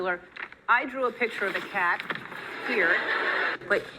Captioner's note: audience laughing